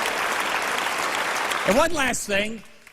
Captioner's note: applause